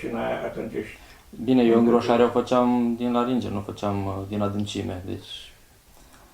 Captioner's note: breathing